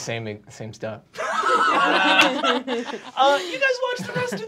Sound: group laughing

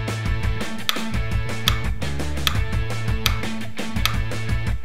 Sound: steady clicking

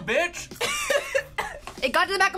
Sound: laughs

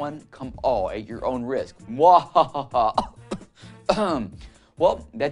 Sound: cough

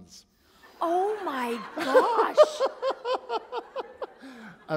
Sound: laughter

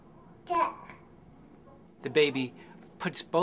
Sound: baby babbles

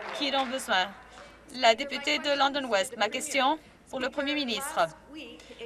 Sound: some Applause

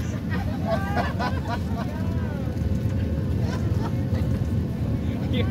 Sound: passengers laughing

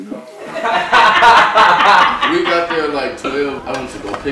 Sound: laughter

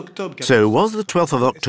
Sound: speaking in foreign language

